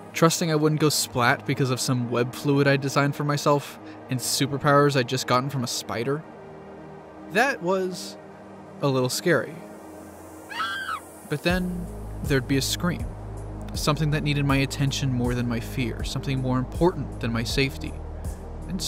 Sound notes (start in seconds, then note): 10.4 woman screams